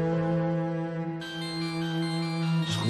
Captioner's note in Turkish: Telefon çalması